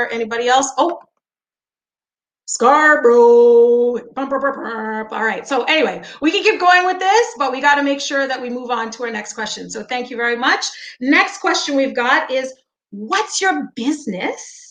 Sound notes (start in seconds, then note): 4.3 humming